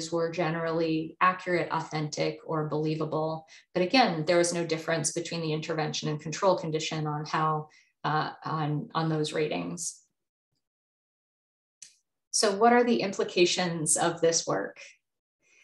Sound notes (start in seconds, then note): none